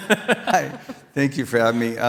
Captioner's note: laughing